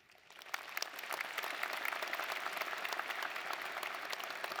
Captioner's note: audience applauding